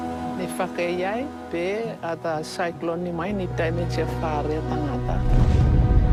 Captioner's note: citizen speaking in foreign language